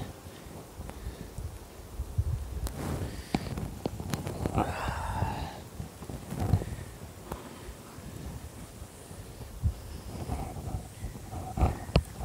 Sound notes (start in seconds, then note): 1.0 Putting Hive together...Heavy Breathing